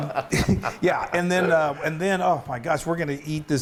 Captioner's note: laugh